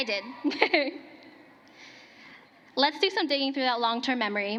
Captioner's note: cheering and applause